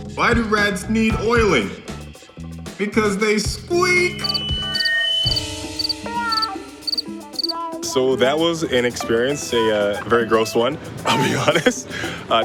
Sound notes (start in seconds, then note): 4.2 crickets